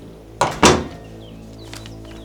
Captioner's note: door clicks shut